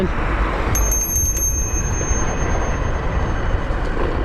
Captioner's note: bell ringing